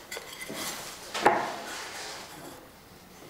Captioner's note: rattle